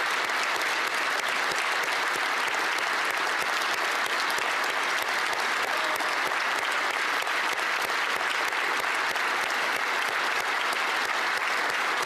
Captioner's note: applause